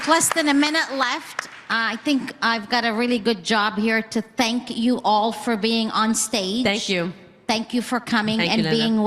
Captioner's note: applause